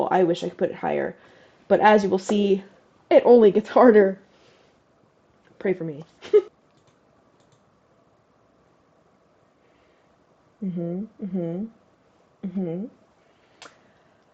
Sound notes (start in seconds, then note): 6.2 chuckles